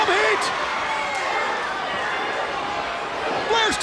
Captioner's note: crowd cheering